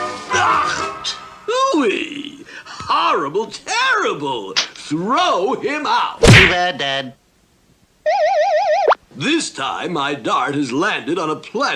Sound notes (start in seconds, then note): 6.2 splat!